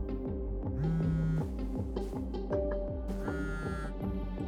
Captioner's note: phone buzzing